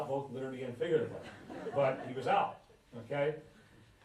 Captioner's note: laughter